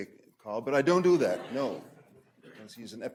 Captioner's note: audience laughing